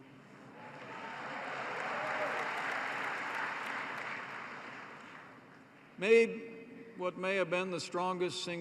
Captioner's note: applause